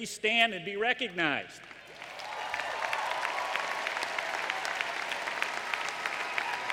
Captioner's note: applause